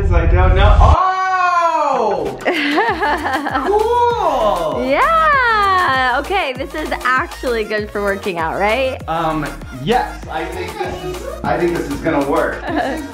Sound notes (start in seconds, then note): 2.4 laughs